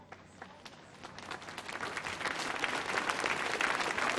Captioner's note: audience clapping